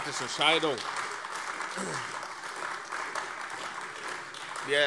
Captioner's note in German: Heiterkeit und Beifall AfD